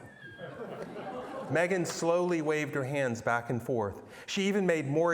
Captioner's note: laughter